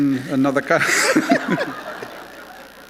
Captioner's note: laughter